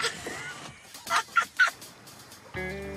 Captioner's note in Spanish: Risas